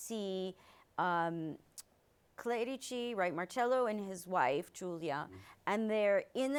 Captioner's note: clicks tongue